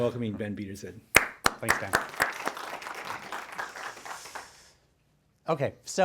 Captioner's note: applause